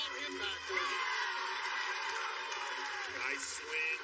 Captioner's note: cheers and applause